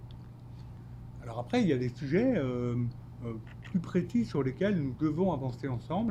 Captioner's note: speaking French